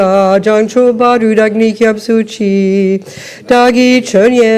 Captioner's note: French